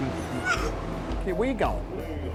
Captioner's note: sobbing